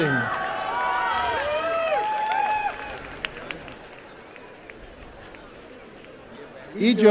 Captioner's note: applause and cheering